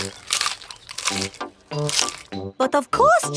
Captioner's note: munching